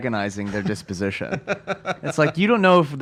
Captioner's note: laughs